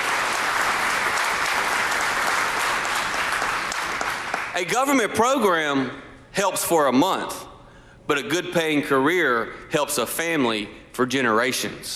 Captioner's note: applause